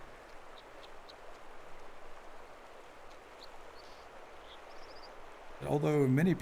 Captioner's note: river gurgling and American Dipper singing